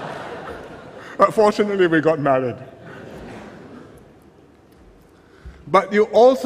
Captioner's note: laughter; laughter